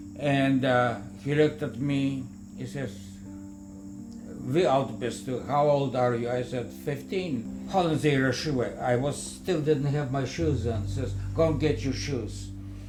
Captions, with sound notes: And ah, he looked at me. He says, (speaking German) How old are you? I said 15. (German speaking) I still didn't have my shoes on. He says, “go and get your shoes.”